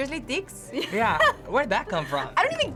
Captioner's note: laughs